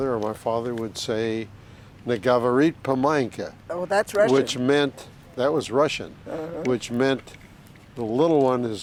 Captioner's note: russian phrase